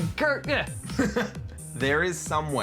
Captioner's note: laughs